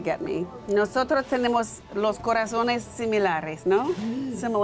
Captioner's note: speaking in foreign language